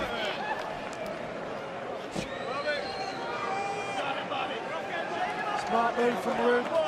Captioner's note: crowd chatter